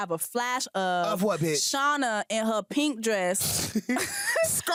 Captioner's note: laughs